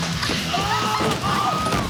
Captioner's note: yelling, grunting